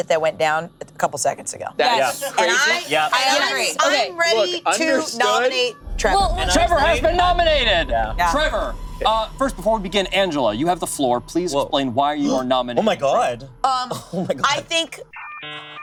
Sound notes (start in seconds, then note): 3.7 group chatting; 7.5 dramatic music; 13.1 gasps; 15.1 electronic beeping